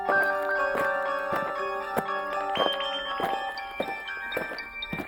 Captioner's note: footsteps thumping